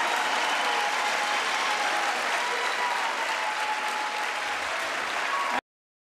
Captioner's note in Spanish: aplausos